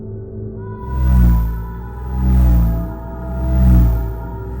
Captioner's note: rotating vibration noise